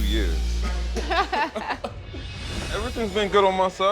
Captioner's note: both laugh